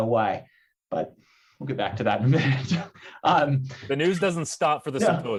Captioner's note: chuckles